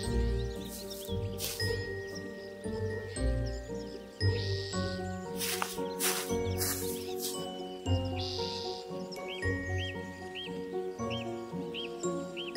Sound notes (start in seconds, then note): 0.3 mysterious music continues; 5.3 leaves crunching